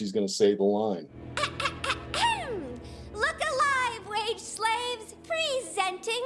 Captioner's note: clears throat